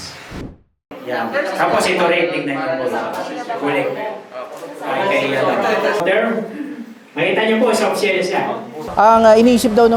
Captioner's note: murmur